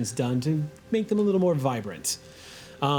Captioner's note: none